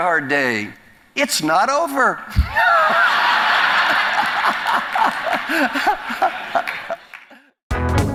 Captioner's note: laugh